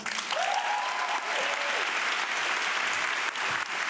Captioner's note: audience clapping